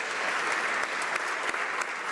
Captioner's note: applause